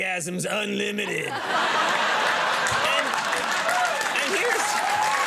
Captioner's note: audience laughing and clapping